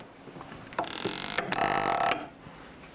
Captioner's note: cranking sound